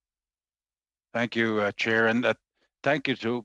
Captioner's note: speaking French